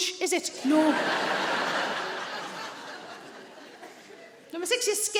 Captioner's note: audience laughing